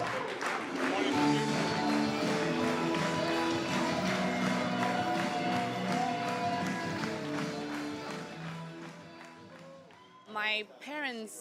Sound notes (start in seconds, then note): 3.5 people clapping in rhythm